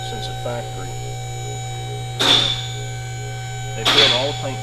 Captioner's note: mechanical noises in background